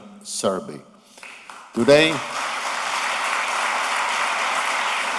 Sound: applause

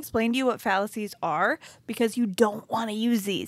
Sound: none

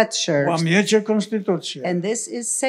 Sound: foreign language

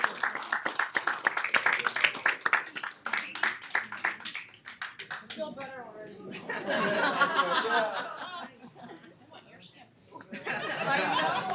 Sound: applause

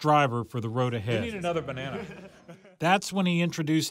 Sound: laughs

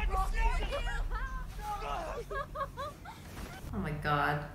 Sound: men shriek; kids laughing

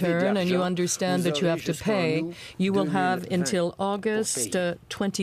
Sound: speaking French

